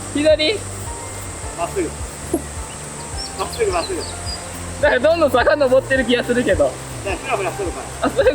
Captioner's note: laughs